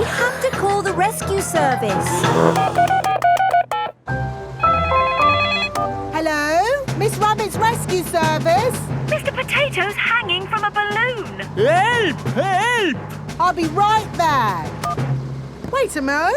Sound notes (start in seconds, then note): 2.0 beeping; 4.8 phone ringing